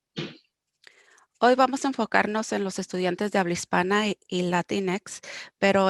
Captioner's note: speaking foreign language